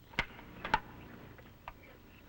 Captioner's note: birds chirping; gun clicking